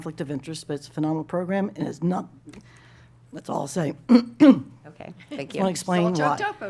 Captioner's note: clears throat